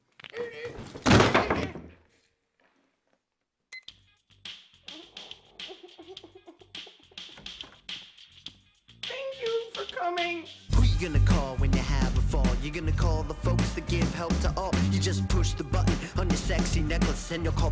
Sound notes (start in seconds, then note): 4.9 crying; 10.7 singing